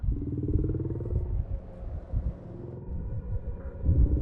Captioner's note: creepy slo motion sounds